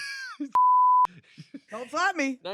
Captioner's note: beep; laughs